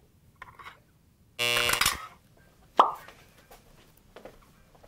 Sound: buzzer buzzing

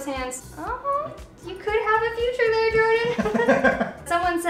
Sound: laughs

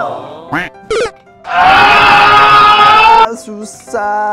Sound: screaming

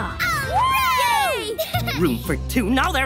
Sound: cheering

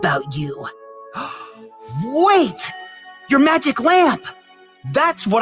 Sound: gasp

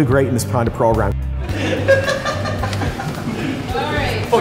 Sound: laughs

